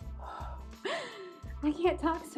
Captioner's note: blows air